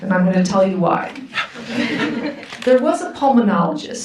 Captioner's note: audience laughs